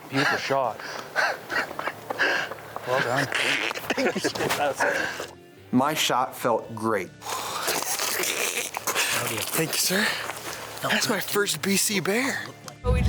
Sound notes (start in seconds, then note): 2.1 breathing heavily and giggling; 2.9 grunting; 6.8 grunting